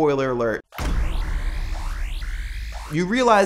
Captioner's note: alarm sounds